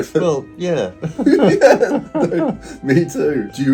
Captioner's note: both laughing